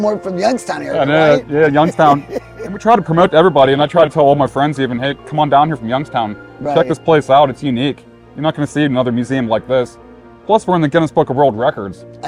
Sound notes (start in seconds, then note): 1.0 laughing